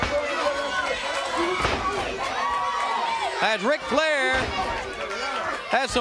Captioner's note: crowd cheering